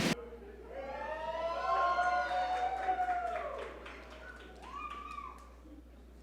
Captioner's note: audience cheer and applaud